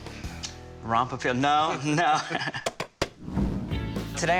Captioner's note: laughs